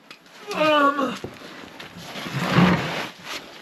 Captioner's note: groaning